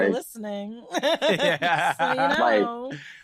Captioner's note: laugh